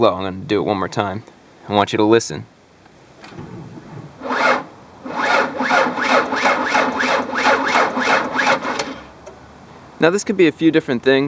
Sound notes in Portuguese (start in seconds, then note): 5.0 Motor a rodar lentamente, sem arrancar